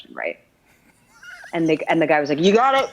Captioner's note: laughs